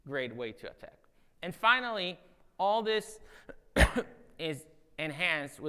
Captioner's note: coughs